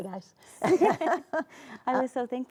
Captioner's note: both laugh